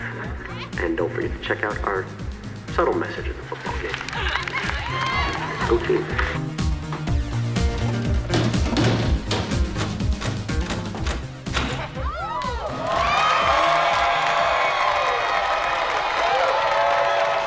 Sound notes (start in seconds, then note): 6.3 dramatic music; 11.9 audience cheering